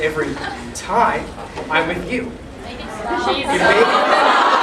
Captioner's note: the crowd roars in protest